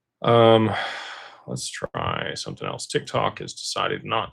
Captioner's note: sighs and gasps